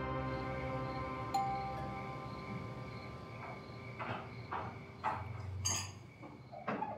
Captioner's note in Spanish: Timbre de la puerta